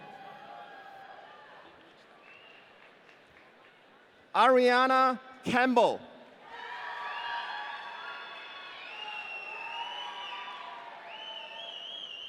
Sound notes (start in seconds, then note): 0.0 audience cheering; 6.5 audience cheering